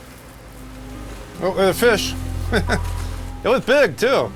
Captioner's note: chuckles